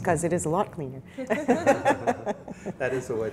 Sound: laughter

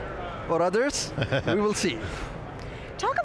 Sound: laughing

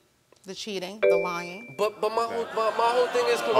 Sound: screen dinging

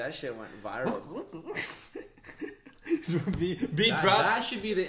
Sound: laughs

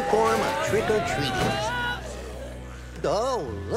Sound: screaming

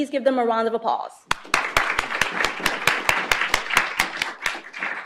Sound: applause

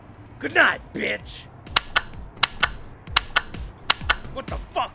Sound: gun clicks out of bullets

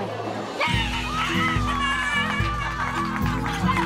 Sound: applause and celebrations

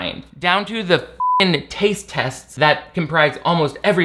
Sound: beep

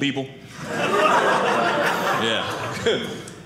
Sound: audience laughing

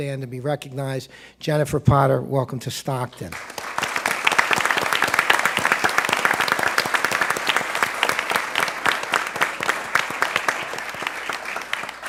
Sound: applause

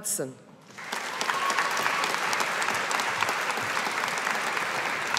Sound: audience applauding

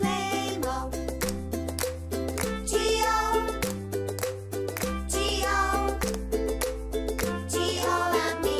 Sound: clap

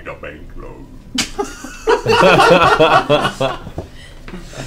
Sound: all laugh

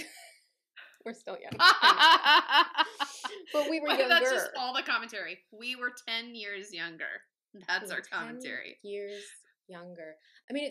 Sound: laughter

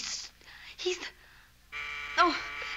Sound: buzzer

